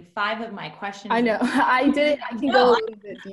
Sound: laughing

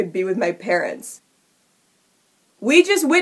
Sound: stunned silence

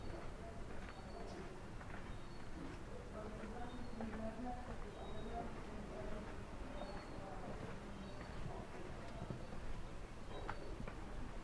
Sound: walking continues

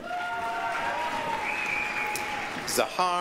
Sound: applause, cheering

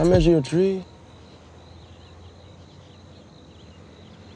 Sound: birds chirping

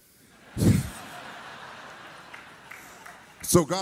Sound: audience laughs

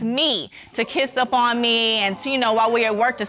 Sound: audience exclaims

